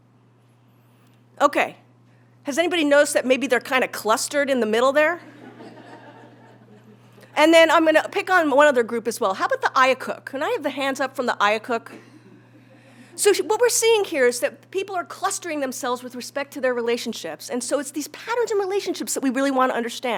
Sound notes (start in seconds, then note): 5.2 laugh